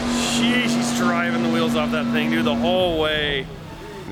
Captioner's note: car engine revving